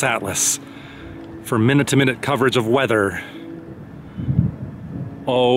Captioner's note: thunder